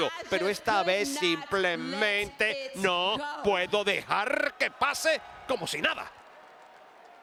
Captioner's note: applause